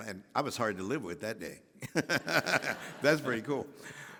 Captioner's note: Henry laughing